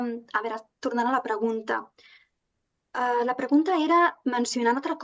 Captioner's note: speaking in Catalan